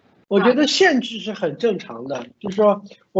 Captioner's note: Mandarin